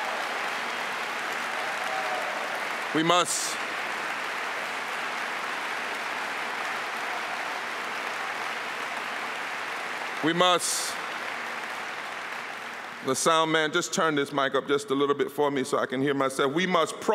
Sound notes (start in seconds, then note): 5.1 applause